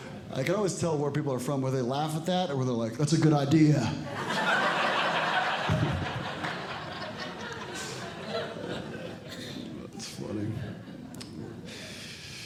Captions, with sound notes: I can always tell where people are from, whether they laugh at that, or they're like, That's a good idea. [Audience Laughing] It's funny.